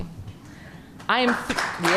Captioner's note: applause